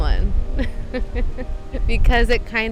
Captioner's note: interviewee laughing